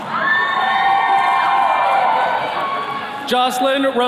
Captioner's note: attendees cheering